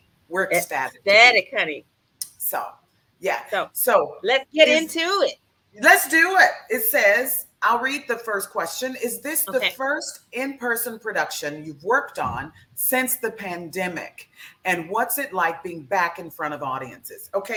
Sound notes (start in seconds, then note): none